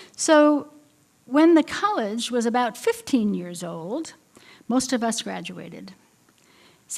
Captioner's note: none